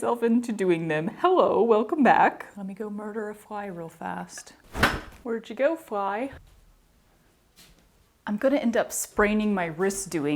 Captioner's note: thwack